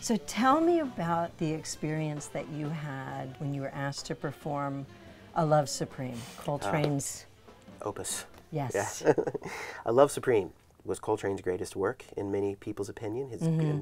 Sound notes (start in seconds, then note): 8.8 laughs